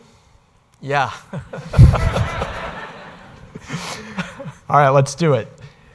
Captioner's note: audience laughing